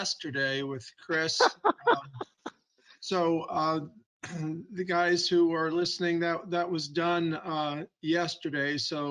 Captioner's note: laughs